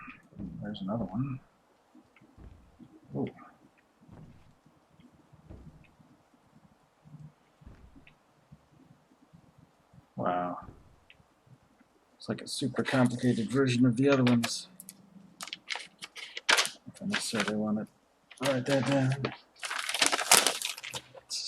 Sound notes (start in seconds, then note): 15.2 clicks pen; 20.0 rustles plastic